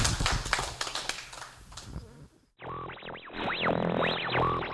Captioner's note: applause